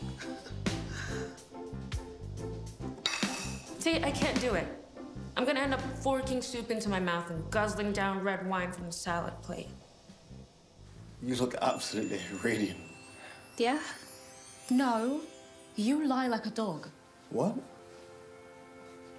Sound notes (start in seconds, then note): 0.3 laughing; 3.0 utensil clanking